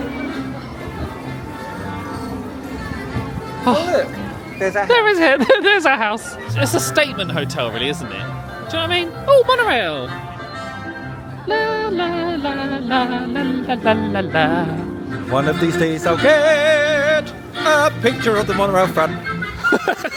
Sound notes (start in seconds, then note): 12.0 bright music; 12.2 humming